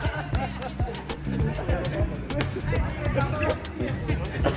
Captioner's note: laughing